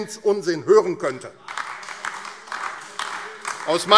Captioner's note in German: Beifall AfD